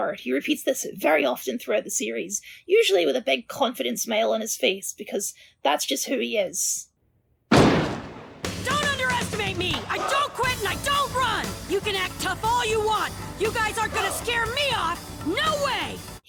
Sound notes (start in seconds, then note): 7.5 slam